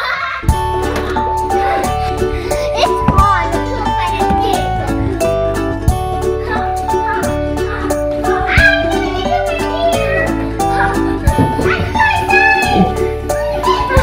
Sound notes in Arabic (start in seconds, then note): 0.0 صراخ; 1.0 ضحك; 1.4 ضحك مرحة